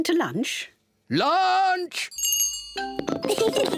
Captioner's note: rings bell; both laugh